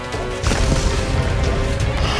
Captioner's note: falls